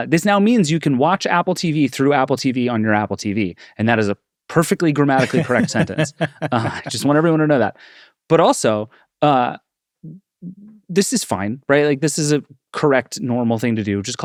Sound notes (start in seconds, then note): 5.2 laughs